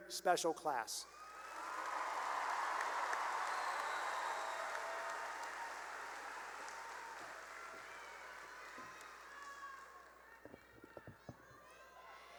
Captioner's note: cheering and applause